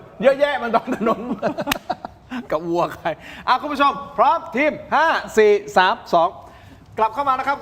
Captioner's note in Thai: เสียงหัวเราะ